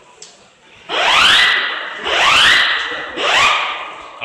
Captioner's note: siren